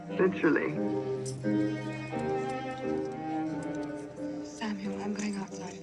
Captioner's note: indistinct chatter